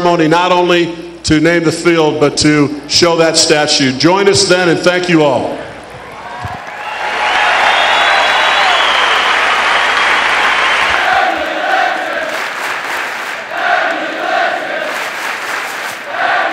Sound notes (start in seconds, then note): 7.0 cheering; 11.8 clapping